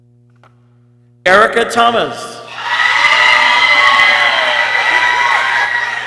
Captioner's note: people cheering